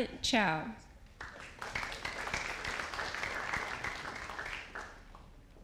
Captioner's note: audience applauding